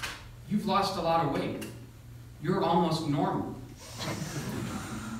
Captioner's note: groans